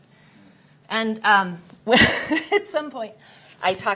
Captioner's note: chuckles